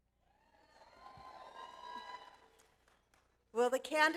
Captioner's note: audience applause